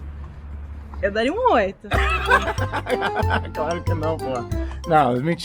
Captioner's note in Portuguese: gargalhada alta; música cômica